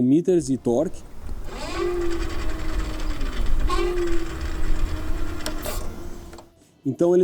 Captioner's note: engine Sound